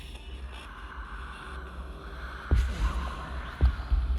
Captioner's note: whispering; ominous music